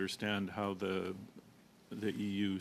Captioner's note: speaking French